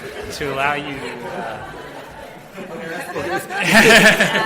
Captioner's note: audience laughs